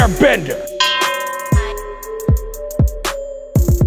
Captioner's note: ding